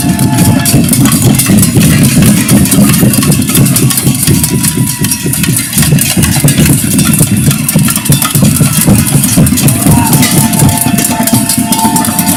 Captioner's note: crowd shouting, whistling, banging pots and pans